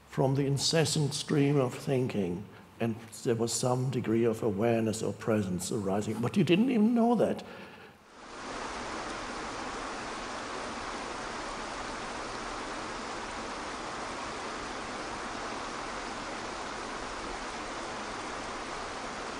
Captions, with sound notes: from the incessant stream of thinking and there was some degree of awareness or presence arising but you didn't even know that. (calming water flowing)